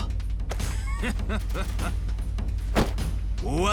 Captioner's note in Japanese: 笑い